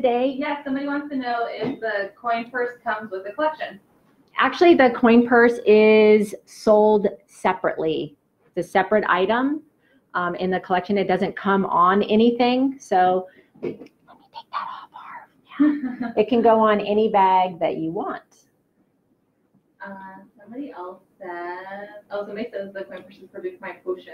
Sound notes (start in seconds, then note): 12.6 whispers; 15.2 normal voice